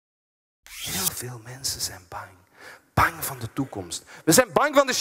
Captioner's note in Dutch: fluistert